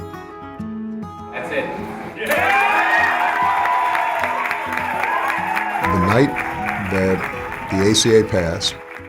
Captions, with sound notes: - That's it. (crowd cheering and clapping) - The night that the ACA passed